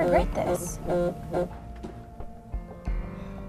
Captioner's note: phone vibrates